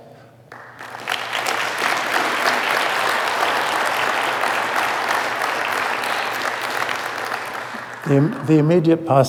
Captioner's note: applause